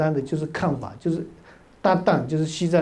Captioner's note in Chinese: 藏語